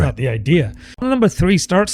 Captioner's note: uh